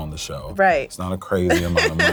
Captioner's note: laughs